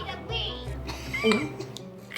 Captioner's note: gulp